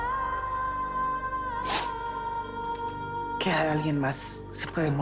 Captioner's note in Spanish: Sollozos